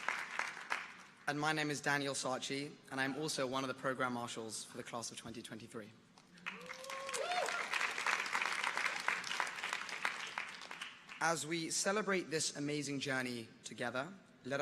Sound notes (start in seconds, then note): 6.4 audience applauding